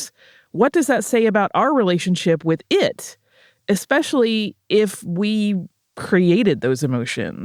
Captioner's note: none